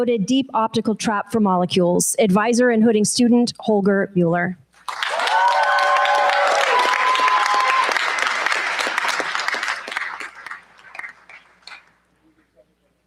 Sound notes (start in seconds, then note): 4.8 cheers, applause